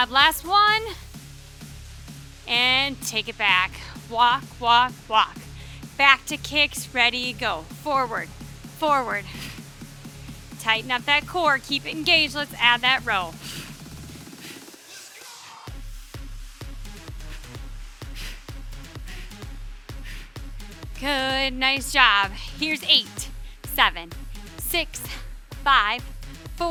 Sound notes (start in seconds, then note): 13.7 breathing deeply; 13.7 upbeat music continues